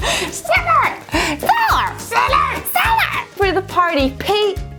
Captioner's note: yelling "Cellar"